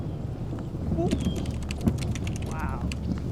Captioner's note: rumbling continues, birds squawking